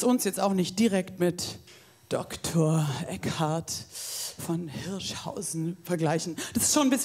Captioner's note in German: hauchend